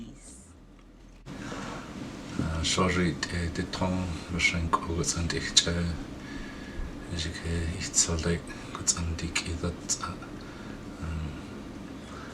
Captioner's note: speaking in Athabascan Gwich'in